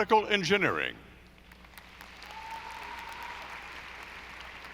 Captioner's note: audience applauding